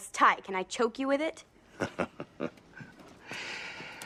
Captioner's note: chuckling